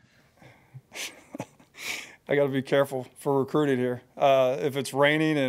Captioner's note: laughs